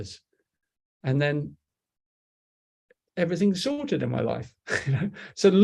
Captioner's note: chuckles